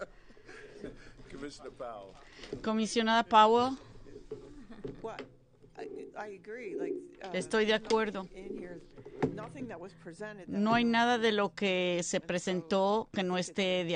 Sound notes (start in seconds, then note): 2.3 laughter